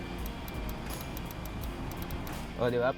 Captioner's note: rotary knob clicks